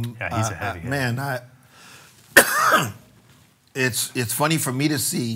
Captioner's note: coughs